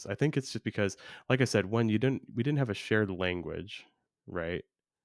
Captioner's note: none